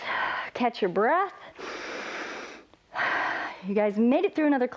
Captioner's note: inhales and exhales